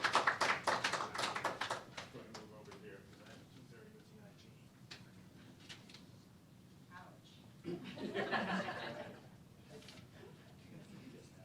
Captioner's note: applause